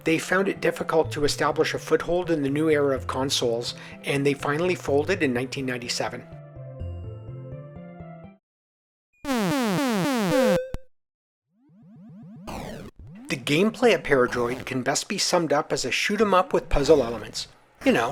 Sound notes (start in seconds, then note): 9.2 8-bit alien sound effect